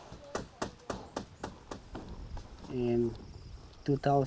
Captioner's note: hammering